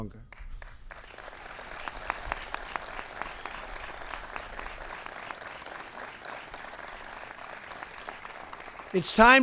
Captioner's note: applause